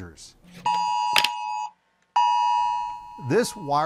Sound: alarm Sound

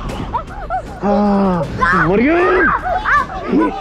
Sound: screams

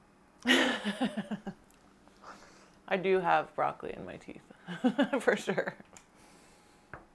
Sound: laughs

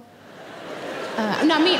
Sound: audience laughing

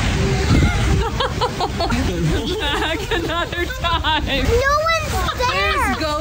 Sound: laughing

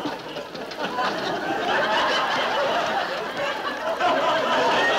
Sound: laughing

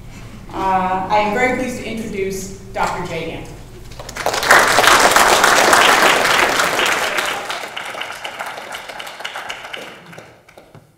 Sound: applause

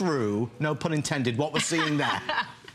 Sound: laughter

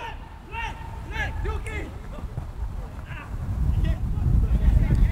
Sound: players talking and yelling

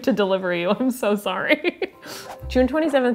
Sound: laughs

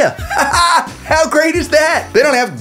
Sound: laughs

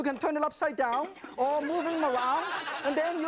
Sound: audience laughs

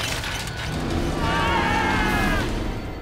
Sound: screaming

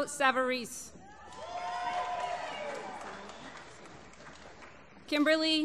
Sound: applause

